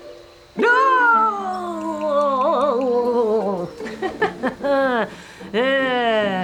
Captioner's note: nervous laughs